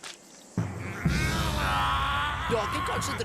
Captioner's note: growls